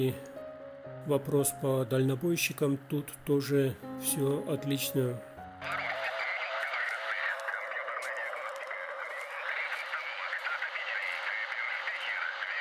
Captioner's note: applause